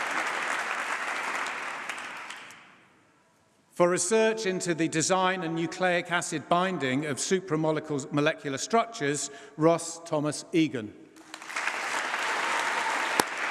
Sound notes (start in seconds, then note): 11.2 applause